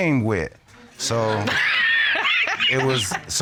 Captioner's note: laughing